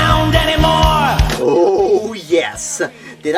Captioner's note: giddily